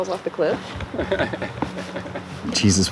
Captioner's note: CJ laughing